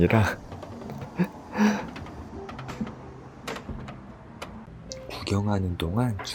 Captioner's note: creaking, I love it